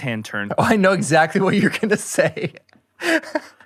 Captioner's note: laughs